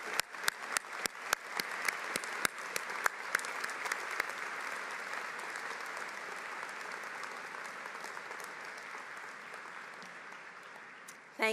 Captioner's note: applause